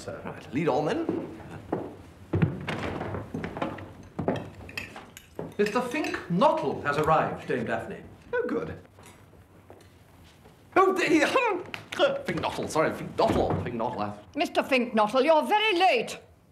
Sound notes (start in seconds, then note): 10.4 laughing